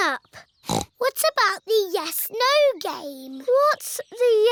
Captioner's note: snorts